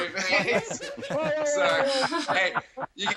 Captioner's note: laughter